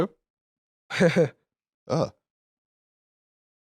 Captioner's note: chuckles